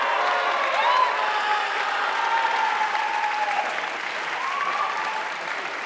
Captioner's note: audience cheering and applauding